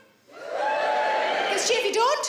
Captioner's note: audience cheering